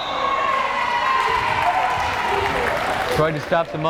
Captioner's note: crowd cheering